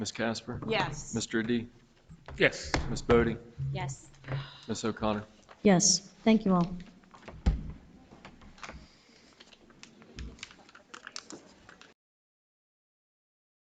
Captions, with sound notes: - Ms. Casper? - Yes. - Mr. Adi? - Yes. - Ms. Boddy? - Yes. - Ms. O'Connor? - Yes. Thank you all. (gavel thuds)